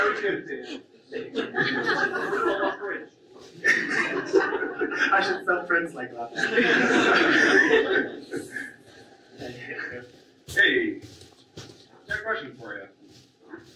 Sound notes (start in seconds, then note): 0.0 audience laughs